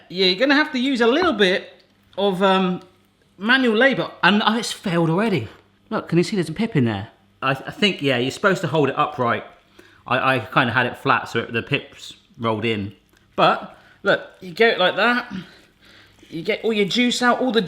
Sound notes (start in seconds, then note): none